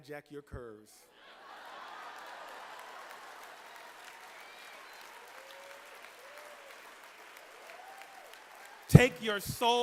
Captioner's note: laughter and applause